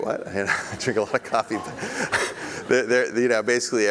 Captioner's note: laughs